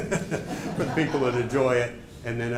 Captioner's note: laughter